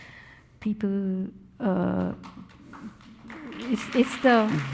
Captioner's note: audience applauding